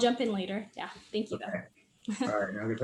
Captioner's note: chuckles